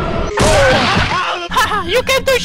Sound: screaming in pain

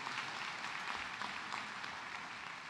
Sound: cheers and applause

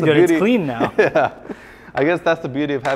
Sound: laughs

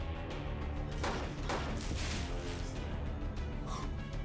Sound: gun firing

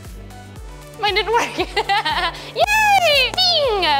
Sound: laughs

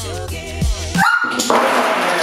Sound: scream; clap

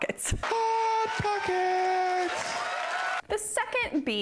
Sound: crowd cheers

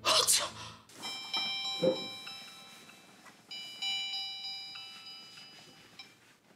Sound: cell phone ringing

